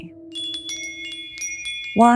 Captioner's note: bells chime